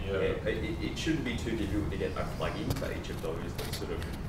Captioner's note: voiceover